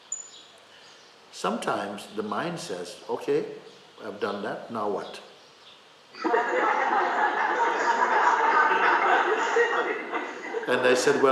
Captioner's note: laughter